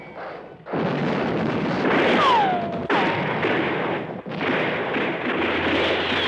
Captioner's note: explosions